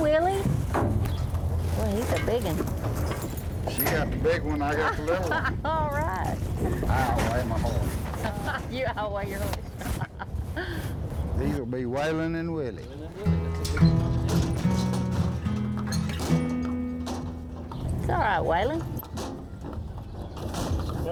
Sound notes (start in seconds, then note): 4.8 laughs; 8.2 laughs; 11.0 laughs